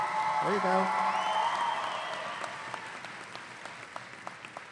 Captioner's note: audience applauding